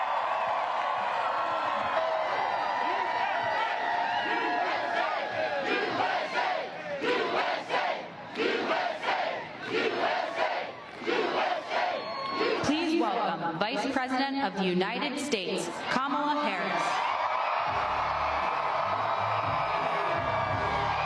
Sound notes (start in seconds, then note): 10.0 cheers and applause